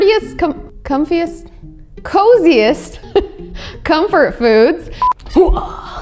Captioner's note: laughs